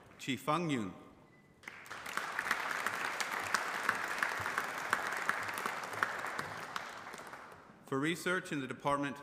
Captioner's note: applause